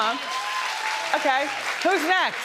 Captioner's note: audience cheering